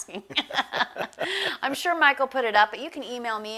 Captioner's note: laughs